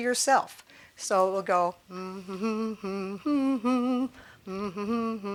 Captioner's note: humming "Happy Birthday"